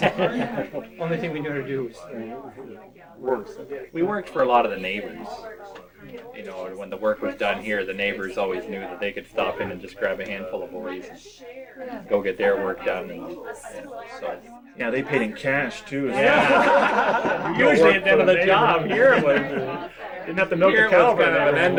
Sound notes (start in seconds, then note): 0.0 laughter; 16.0 crowd laughter